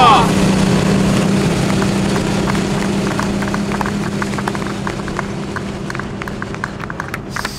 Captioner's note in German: vereinzeltes Klatschen